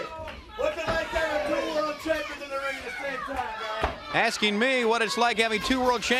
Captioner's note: crowd cheering